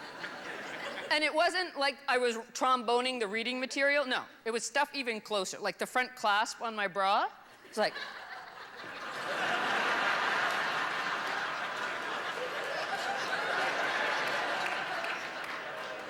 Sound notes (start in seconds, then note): 9.4 laughter